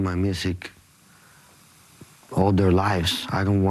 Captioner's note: speaking non-english